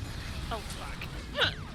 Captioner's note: laughs